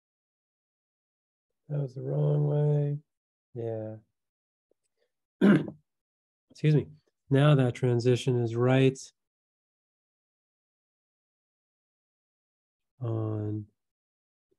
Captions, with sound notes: That was the wrong way, yeah. (coughs) Excuse me. Now that transition is right on.